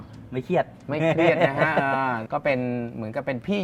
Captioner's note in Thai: เสียงหัวเราะ